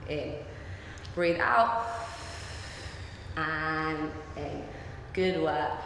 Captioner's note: breathing out